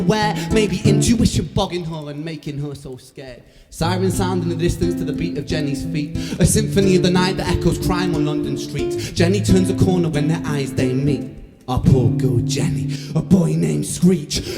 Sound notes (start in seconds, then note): none